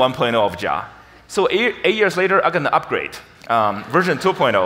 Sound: audience laughs

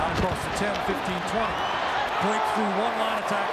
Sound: crowd cheering

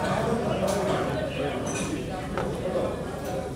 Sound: ambient market/restaurant sounds

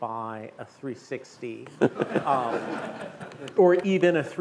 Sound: laughter

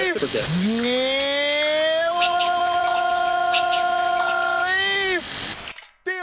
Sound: chaotic distorted voices and sound effects

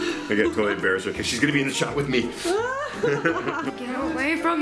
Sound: laughs

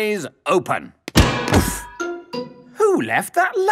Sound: thuds

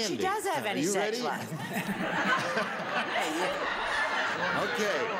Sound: audience laughs; laughs

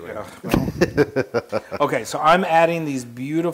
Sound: laugh

